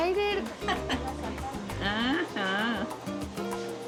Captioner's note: laughs